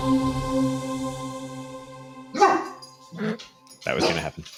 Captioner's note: dog barking